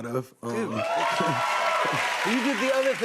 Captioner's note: cheers and applause